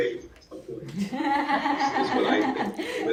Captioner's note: audience laughing